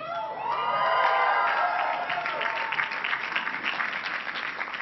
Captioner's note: cheering and clapping